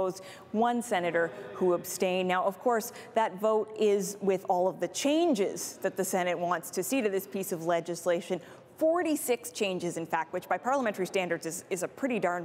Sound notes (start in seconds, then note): none